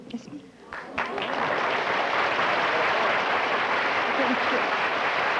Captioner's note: applause